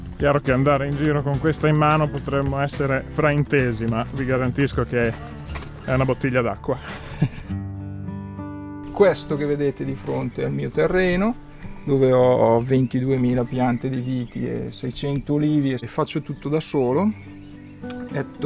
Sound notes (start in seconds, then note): 6.8 laughs